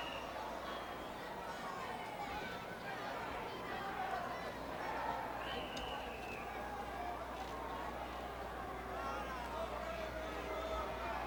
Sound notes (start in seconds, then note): 2.8 crowd chattering